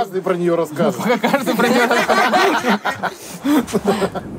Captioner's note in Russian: смеются